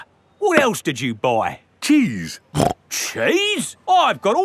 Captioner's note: snorts